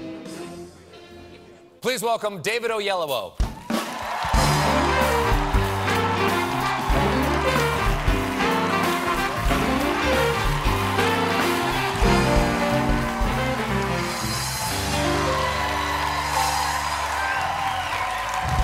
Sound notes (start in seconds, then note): 3.4 cheers and applause; 4.3 band playing